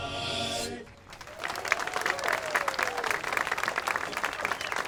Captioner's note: all applauding